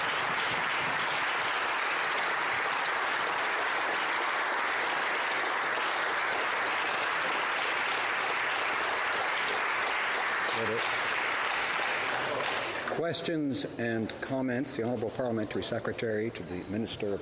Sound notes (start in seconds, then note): 5.1 some Applause